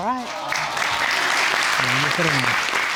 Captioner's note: audience cheering